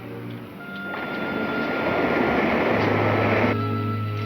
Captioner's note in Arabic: طنين